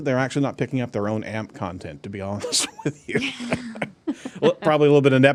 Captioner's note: laughs